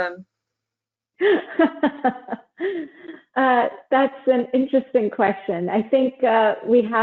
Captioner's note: laughs